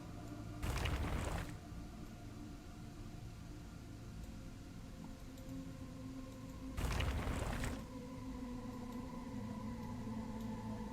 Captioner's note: intermittent gravel sounds